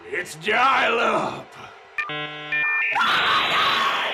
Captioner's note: sound of dial up modem connecting